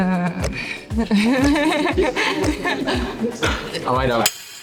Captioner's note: laughter